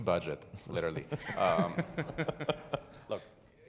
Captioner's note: audience laughing